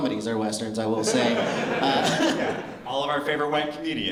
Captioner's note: laughter